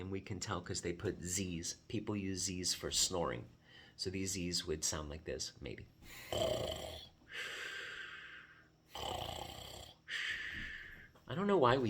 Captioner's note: makes snoring sounds